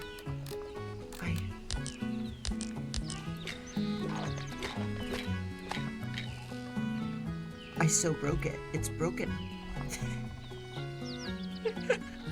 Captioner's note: laughs